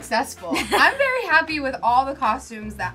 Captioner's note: laughs